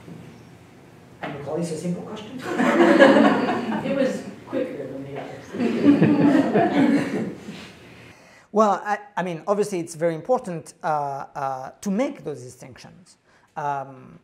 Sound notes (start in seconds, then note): 2.4 laughter; 5.5 laughter